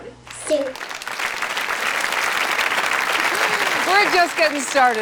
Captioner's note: applause